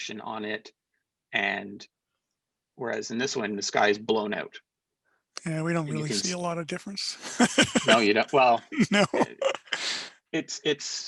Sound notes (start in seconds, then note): 7.2 laughter